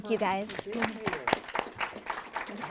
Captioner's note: applause